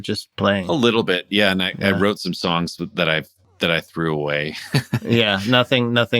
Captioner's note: laughter